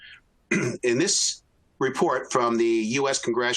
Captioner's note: clears throat